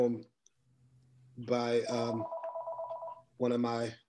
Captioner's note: phone rings